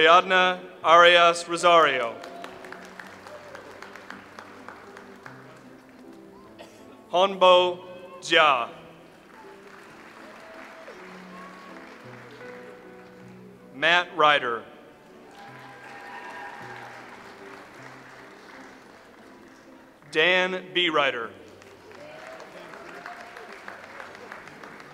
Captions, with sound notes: Ariadna Arias Rosario. (audience applauds) Hongbo Jia. (audience applauds) Matt Ryder. (audience applauds) Dan Bereiter. (audience applauds)